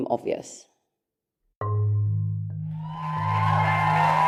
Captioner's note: applause